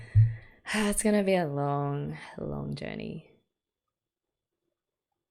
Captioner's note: sighs